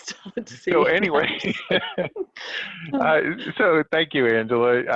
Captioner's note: both laughing